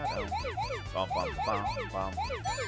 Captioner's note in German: summt Musik